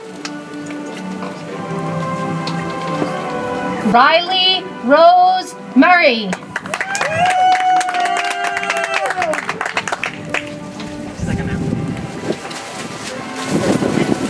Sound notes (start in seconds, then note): 10.2 audience applauds